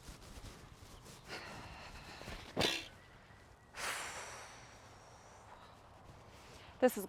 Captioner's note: Eden exhales; bag thumps